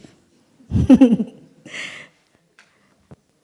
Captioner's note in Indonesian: Suara tertawa